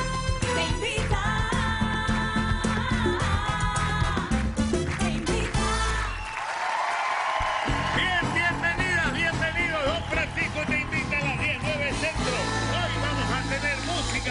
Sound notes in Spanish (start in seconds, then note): 7.6 aplausos